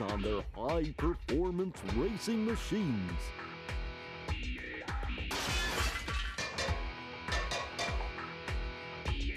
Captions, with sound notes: ON THEIR HIGH-PERFORMANCE RACING MACHINES. [metallic clanging]